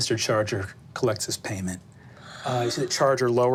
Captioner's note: gasping